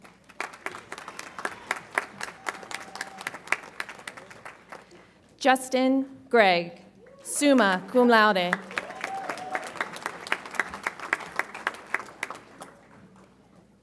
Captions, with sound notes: (audience applauds) Justin Gregg, summa cum laude. (audience applauds)